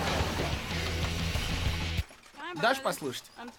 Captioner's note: loud music plays; tires screech, music stops